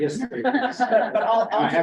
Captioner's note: laughter